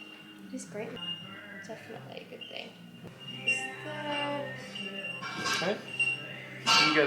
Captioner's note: birds chirping in the background; indistinct chatter